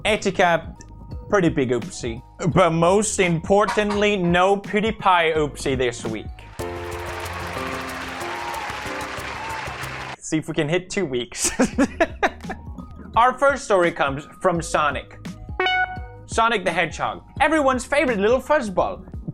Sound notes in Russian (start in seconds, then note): 11.4 ироничный смешок; 15.6 пип